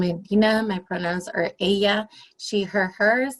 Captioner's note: speaking spanish